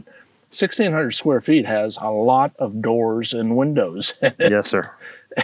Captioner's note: laughs